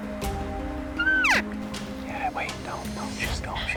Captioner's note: cow calling